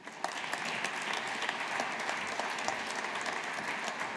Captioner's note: audience applauding